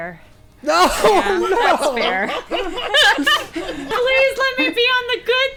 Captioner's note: players laughing